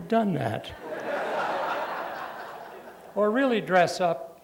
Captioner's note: laughter